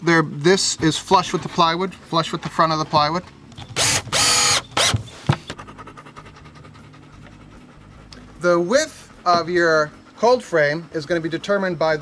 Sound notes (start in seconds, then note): 3.6 drill drilling; 5.3 dogs panting